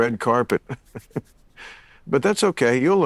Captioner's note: chuckling